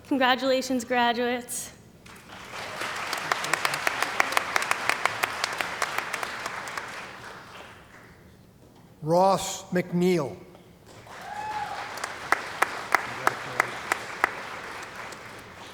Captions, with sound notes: Congratulations graduates. [ Applause ] >> Ross McNiel. [ Cheering & Applause ]